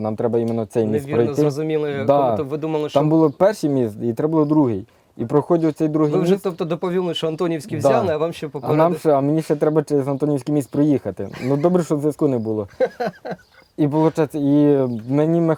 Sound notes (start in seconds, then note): 12.6 interviewer laughs